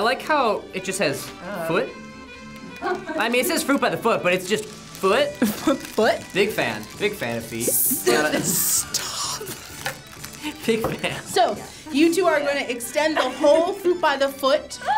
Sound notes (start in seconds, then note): 5.4 chuckles; 8.0 wheezing; 14.7 gasping